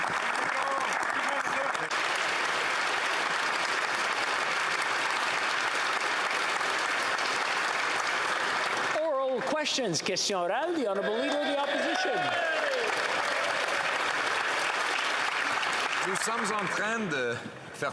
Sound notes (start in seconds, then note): 4.3 some Applause